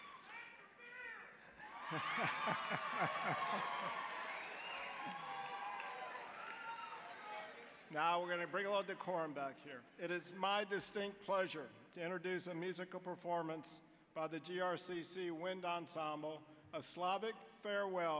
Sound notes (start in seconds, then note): 1.5 audience laughing, cheering